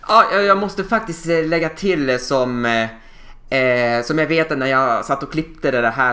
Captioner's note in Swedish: none